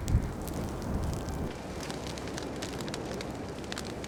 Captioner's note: fire crackling